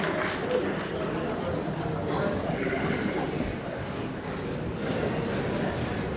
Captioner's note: applause